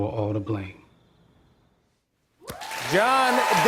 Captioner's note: cheers and applause